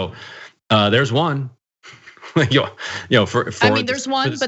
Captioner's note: laugh